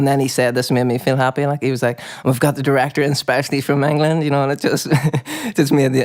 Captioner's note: laughs